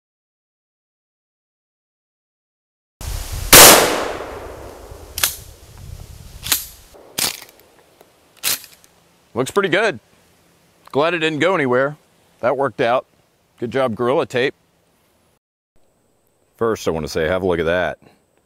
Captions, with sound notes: (gun fires) (gun cocks) Looks pretty good. Glad it didn't go anywhere. That worked out. Good job Gorilla Tape. First I wanna say, have a look at that.